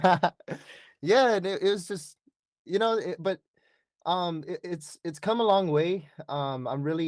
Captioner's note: laughter